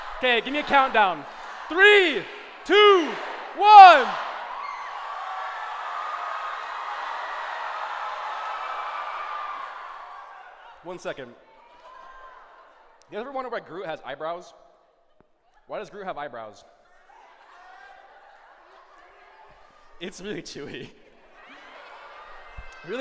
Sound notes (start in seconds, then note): 0.0 chanting; 3.9 screaming; 16.8 shouting